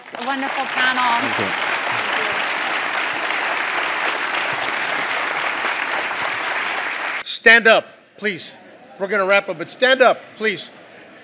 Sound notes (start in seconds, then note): 0.0 applause